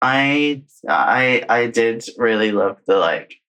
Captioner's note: laughs